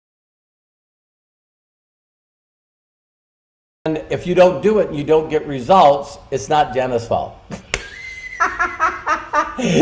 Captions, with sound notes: And if you don't do it, you don't get results, it's not Jenna's fault (laughing).